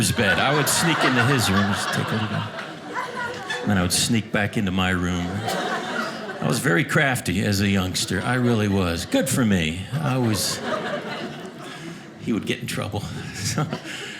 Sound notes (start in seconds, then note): 1.9 audience laughing; 9.7 audience laughing